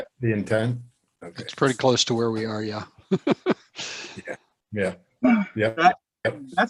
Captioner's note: laughs